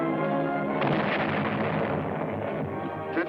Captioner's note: loud explosion